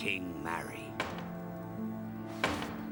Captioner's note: hammering